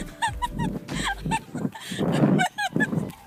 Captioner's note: giggling